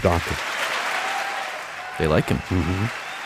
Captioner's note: cheering